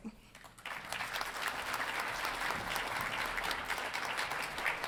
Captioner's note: audience applauding